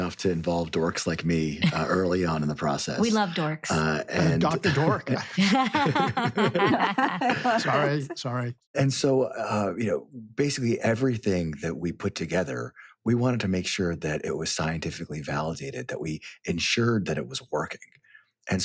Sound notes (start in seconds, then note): 5.5 laughing